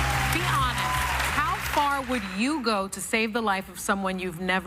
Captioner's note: cheers and applause